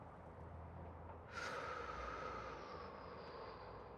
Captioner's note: Tom breathes heavy